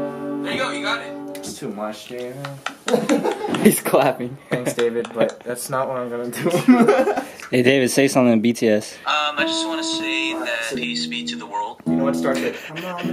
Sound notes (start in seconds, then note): 2.4 laughs; 2.6 laughing; 2.6 clapping; 7.0 laughs